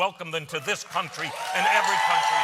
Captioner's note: cheers and applause